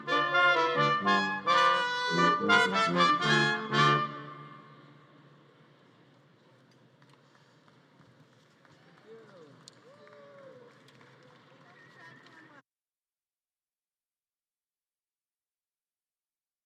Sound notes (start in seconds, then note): 0.0 upbeat music; 6.8 audience claps and cheers